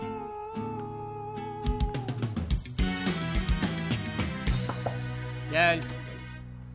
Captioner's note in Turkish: Kapı Sesi